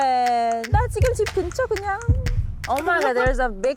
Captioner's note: heartbeat